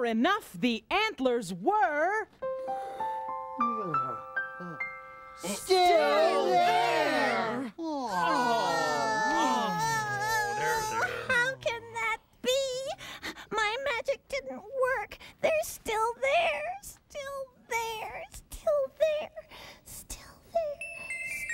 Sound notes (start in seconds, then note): 3.6 yawning; 7.8 all groaning